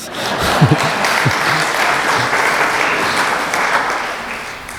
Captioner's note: applause